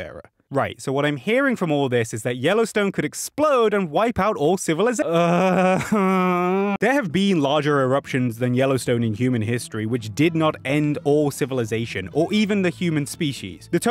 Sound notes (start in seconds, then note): 5.2 exasperated sigh